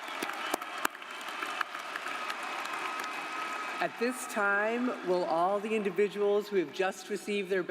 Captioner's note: applause